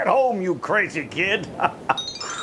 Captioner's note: laughing; tinkling bells